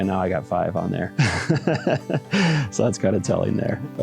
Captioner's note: laughs